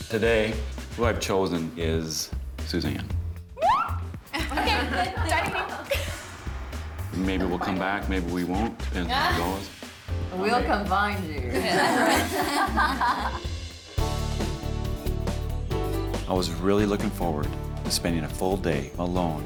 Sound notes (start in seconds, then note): 3.7 gasping; 11.5 women laughing